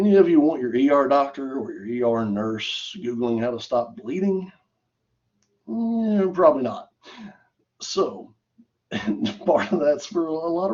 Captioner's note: laughter